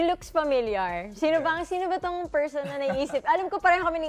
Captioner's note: chuckles